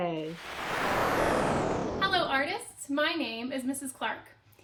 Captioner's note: whooshing